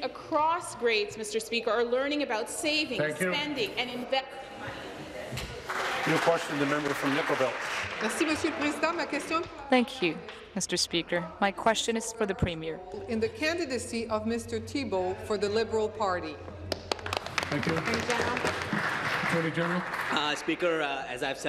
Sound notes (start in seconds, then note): 11.6 speaking in french; 19.8 applause